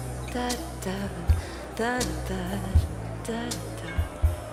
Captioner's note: humming